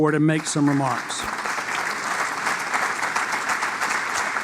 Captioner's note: applause